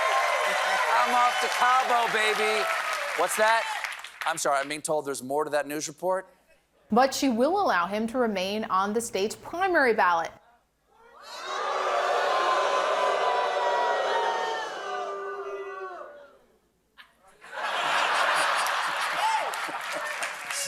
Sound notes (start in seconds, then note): 0.0 cheering; 12.7 booing; 17.0 laughter